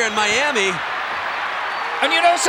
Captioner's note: audience cheering